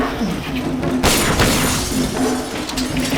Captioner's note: gunshots